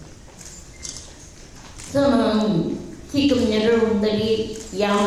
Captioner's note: speaking in foreign language